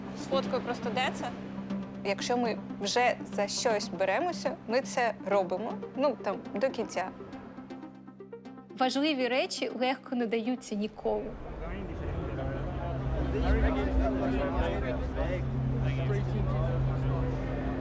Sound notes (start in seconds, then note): 12.9 fans chattering